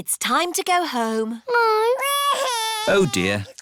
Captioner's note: crying